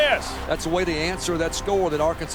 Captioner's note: voiceover